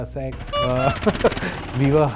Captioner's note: laughs nervously